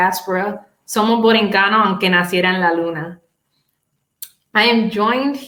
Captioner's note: speaking Spanish